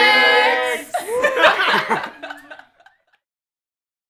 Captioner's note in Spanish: Todos Ríen